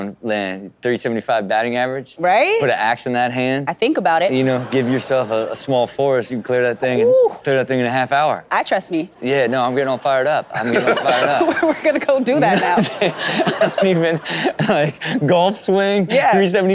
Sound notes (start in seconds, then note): 12.2 laughing; 12.4 Rob and Chanel laugh